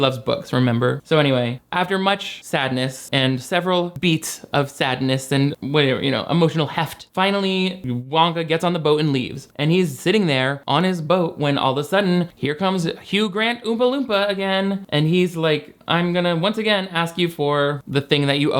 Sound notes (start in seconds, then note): none